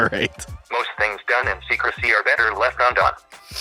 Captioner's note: computer Voice